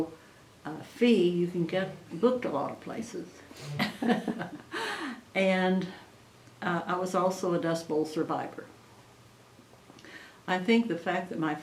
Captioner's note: laughs